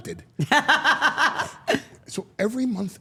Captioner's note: Steph laughing